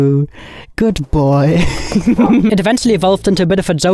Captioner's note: chuckles